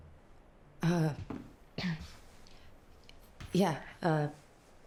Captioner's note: clears throat